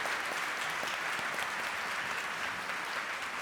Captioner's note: applause